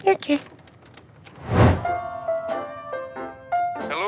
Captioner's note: whoosh